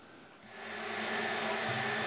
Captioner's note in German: Lautes Surren